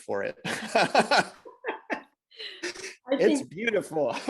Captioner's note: both laughing